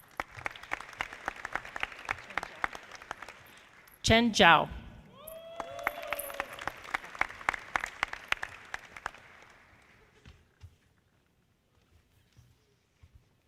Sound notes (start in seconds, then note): 0.0 audience clapping; 5.2 audience applauding